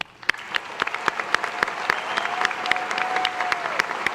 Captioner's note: audience applause